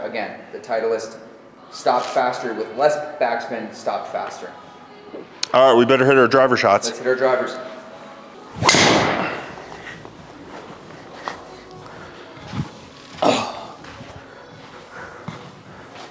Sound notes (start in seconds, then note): 8.6 ball thuds; 8.8 grunts